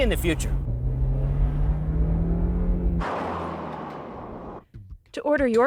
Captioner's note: engine roaring